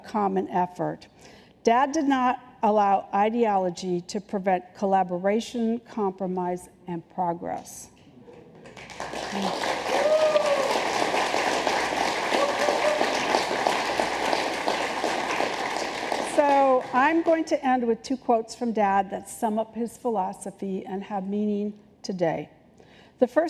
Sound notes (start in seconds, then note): 8.6 applause